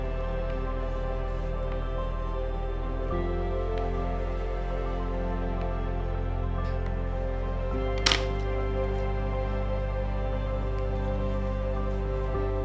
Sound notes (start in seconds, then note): 8.0 bone folder thuds; 9.0 gentle music continues